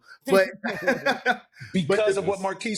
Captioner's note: laughs